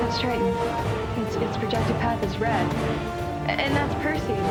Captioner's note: none